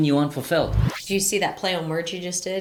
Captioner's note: slide whooshing